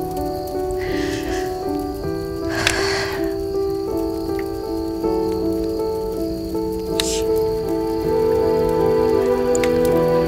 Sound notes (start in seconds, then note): 2.4 sighs